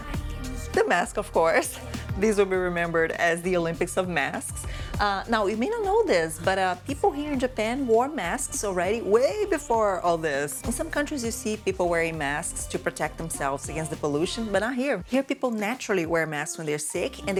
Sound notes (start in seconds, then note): none